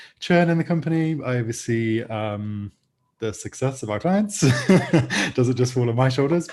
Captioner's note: laughs